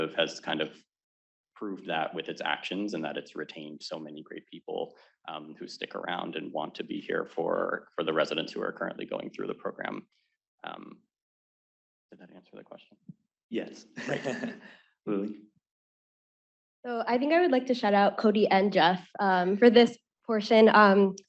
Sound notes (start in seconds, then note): 13.6 laughs